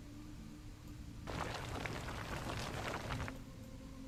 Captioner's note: gravel sounds